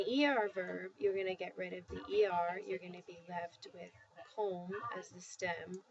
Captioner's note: spanish